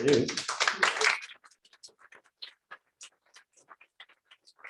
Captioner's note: applause